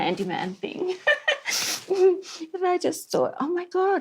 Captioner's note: laughs